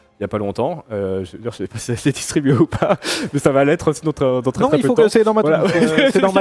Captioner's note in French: rires